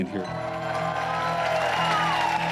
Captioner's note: cheering and applause